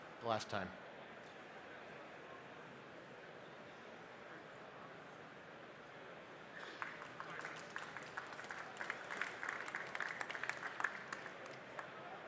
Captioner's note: applause